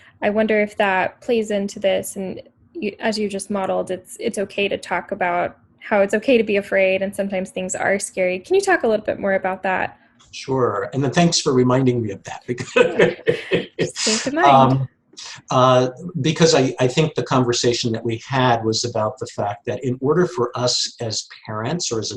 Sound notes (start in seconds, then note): 11.1 laughs